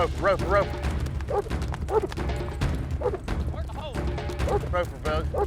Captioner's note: dog barking